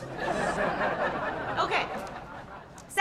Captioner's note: laughter